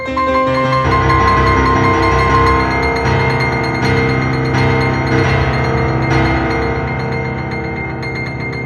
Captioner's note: ears ringing from trauma